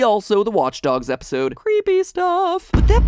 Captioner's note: singsong voice